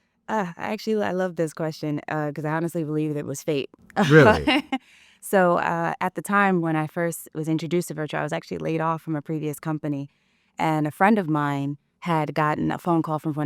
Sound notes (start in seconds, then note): 4.0 laughs